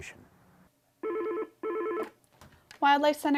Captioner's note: phone ringing